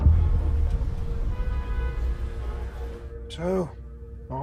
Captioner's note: car engines revving; car horns honking